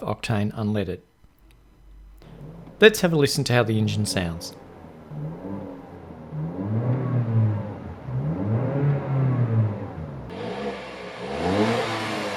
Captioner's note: engine Sounds